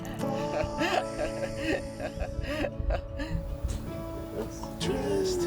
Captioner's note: laughing